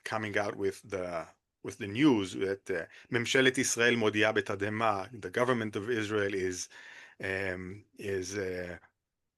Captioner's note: in Hebrew